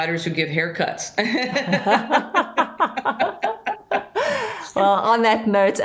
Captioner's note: laughter